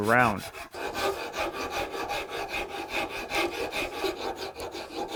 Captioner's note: wood filing